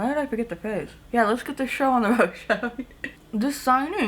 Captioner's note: chuckles